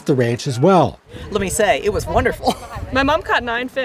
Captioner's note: chuckles